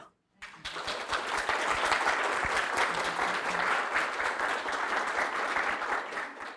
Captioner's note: audience applauding